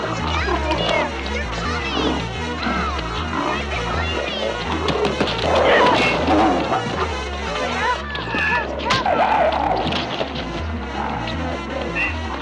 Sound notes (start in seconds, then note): 2.8 yelling; 4.5 thudding